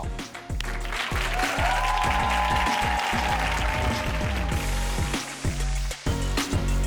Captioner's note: upbeat music; audience cheering